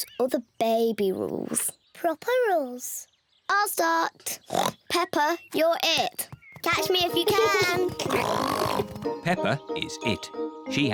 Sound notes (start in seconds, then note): 4.5 oinks; 8.0 oinks; 8.4 giggling